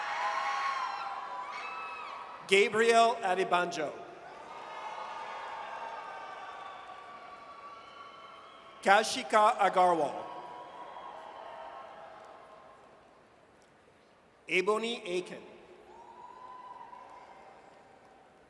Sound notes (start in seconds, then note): 4.3 audience cheers; 15.9 audience cheers